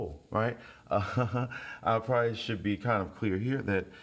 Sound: laughs

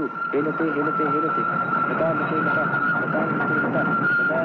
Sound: train Horn Sounding

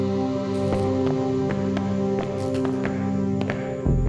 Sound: footsteps

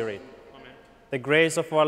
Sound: crowd

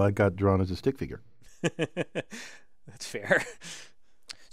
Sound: laugh

